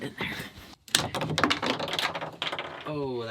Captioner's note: clattering